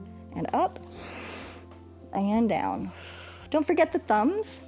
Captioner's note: exhales; inhales